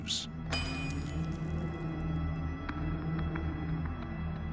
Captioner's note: metal clanks